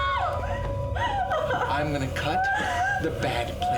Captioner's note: screaming and crying